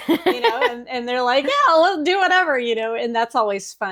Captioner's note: laughing